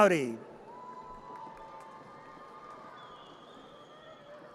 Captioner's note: audience cheers